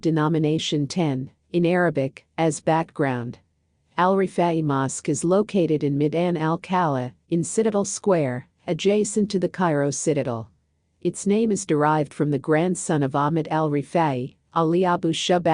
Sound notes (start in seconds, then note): 1.5 in arabic